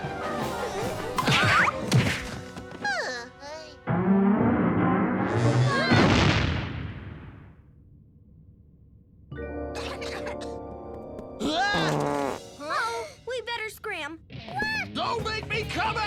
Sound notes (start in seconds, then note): 0.2 Captain Flamingo yelps; 3.6 dinosaur falls; 9.8 coughing; 10.4 security guard gasps